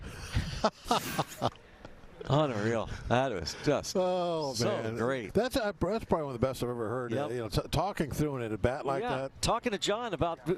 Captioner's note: laughter